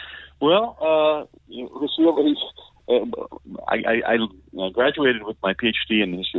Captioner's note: stammering